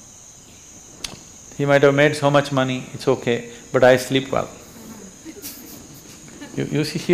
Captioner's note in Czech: Smích